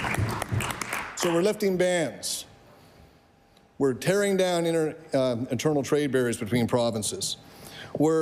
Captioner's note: applause